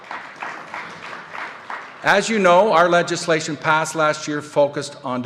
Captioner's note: applause